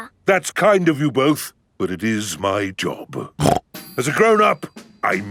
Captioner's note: snorts